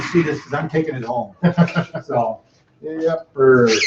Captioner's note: chuckles